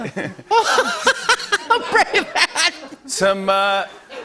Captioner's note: laughing; laughter